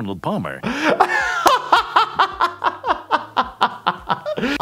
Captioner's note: laughing